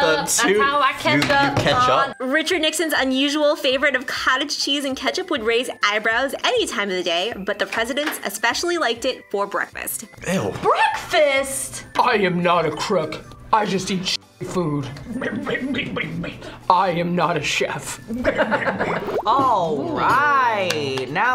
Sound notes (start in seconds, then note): 12.1 as Nixon; 15.1 makes strange grunts; 16.5 as Nixon; 18.1 makes strange grunts; 18.1 laughs